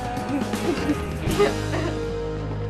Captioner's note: CHUCKLlNG